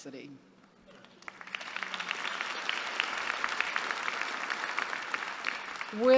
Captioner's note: applause